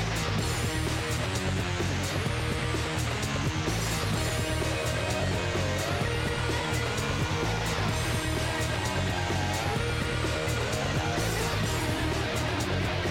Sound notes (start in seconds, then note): none